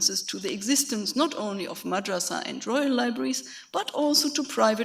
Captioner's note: speaks foreign language